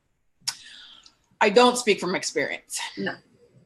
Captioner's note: smacks lips